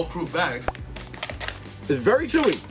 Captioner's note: pops